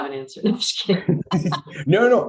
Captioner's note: laughs